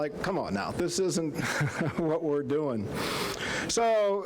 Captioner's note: chuckling